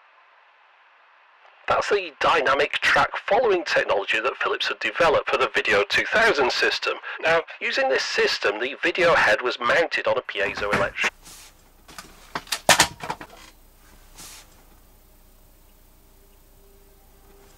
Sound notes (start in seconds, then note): 12.4 slams phone down